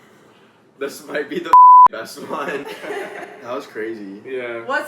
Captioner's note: beep